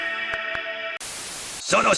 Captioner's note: Static